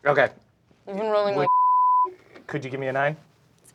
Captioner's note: beeping